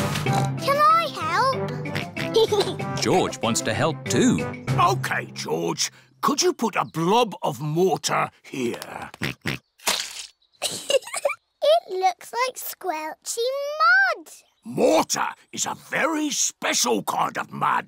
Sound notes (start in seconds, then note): 0.2 oinks; 1.8 oinks and giggles; 9.2 oinks; 10.6 giggles